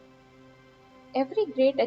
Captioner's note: calm, descriptive, smooth audiobook narration